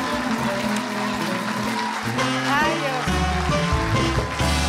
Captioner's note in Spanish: Aplausos